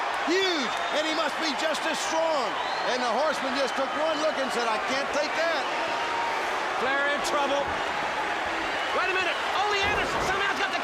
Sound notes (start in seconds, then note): 6.2 crowd cheering